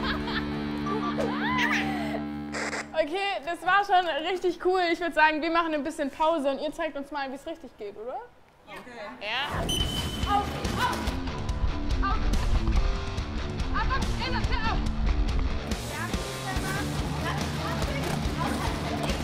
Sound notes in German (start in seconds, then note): 9.6 Pfiff; 11.2 Rock-Musik